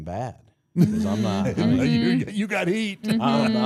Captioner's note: group laughs